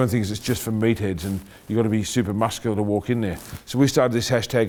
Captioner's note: none